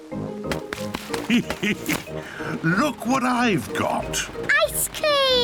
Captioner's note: laughs